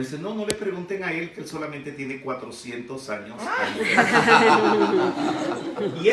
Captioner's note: laughing